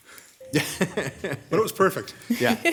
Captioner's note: laughs